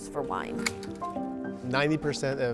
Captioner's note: grape plant snapping